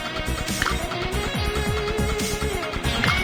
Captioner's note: laughs